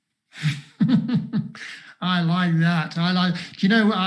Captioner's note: laughs